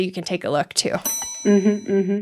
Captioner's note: bell dings